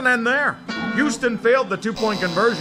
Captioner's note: bonk